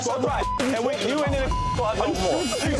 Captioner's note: beep